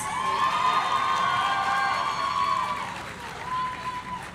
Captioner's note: audience cheering